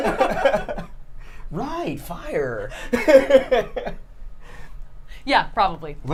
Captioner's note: laughs; laughs